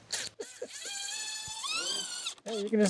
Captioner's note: chuckling